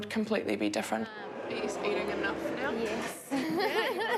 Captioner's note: laughs